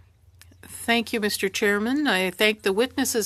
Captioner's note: speaking French